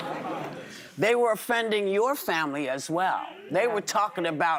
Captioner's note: audience reacts